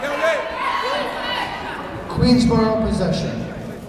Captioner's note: yelling